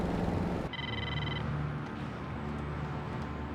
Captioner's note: phone ringing